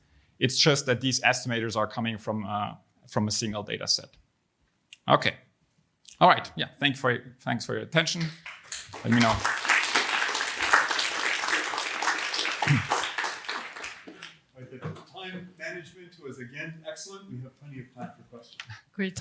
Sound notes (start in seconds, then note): 10.2 applause